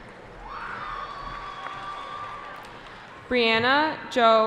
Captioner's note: cheering